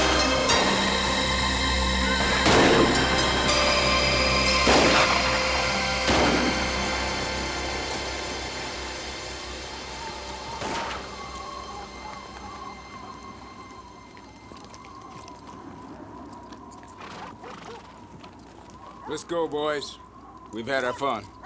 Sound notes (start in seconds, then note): 1.9 horse neighs; 2.0 gun fires; 6.0 guns fire; 9.7 wind whistles; 10.5 gun fires